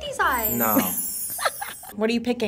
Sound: React laughs

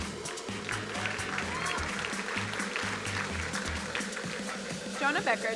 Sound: crowd applauding

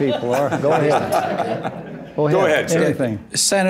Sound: laughter

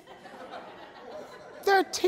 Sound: crowd laughs

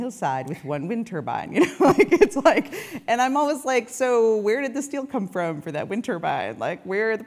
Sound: laugh

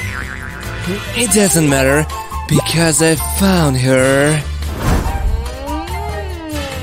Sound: evil laughter

